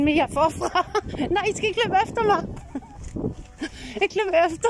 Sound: laughing; laughing

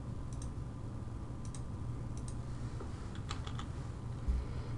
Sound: typing

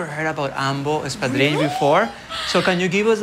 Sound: gasps

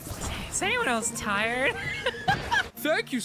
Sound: laughter

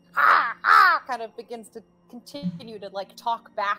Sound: cawing

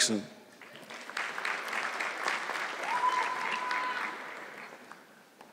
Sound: audience clapping

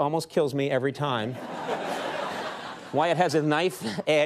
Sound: audience laughing

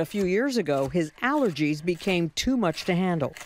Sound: chopping veggies

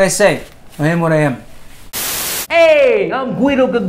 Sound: static hisses

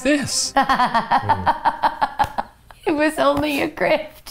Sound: laughs

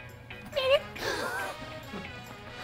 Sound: baby voice

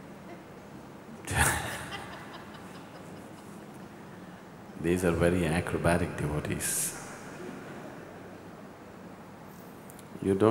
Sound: laughs

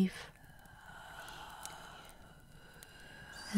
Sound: the whispers cry out, sounding more anguished than before

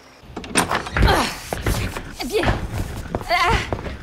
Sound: Becca grunting

